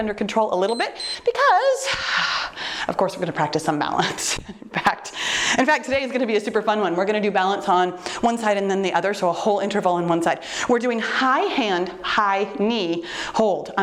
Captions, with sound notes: under control a little bit, (timer beeps) because, (exhales sharply) of course we're gonna practice some balance. In fact, in fact, today is gonna be a super fun one. We're gonna do balance on one side and then the other's a whole interval in one side. We're doing high hand, high knee hold.